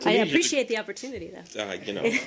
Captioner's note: laughter